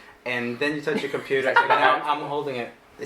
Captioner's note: laughing